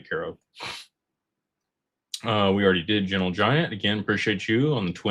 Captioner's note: clears throat; snorts